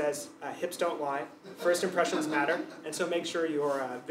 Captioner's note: laugh